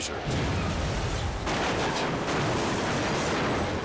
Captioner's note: car crashing